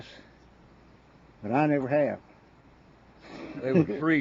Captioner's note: chuckles